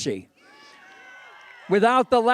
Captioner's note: cheering